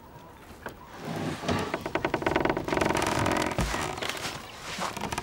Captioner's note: door creaking